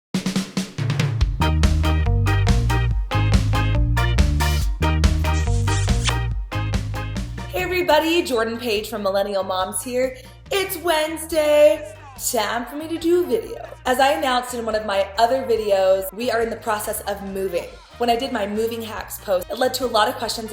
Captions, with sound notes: (happy upbeat music) (kiss) - Hey everybody, Jordan Page from Millennial Moms here. It's Wednesday time for me to do a video. As I announced in one of my other videos, we are in the process of moving. When I did my moving hacks post, it led to a lot of questions